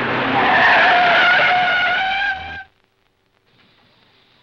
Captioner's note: screeching tires